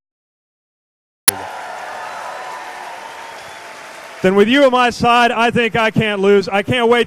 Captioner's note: cheers/applause